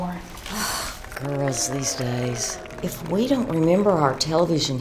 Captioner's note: sighs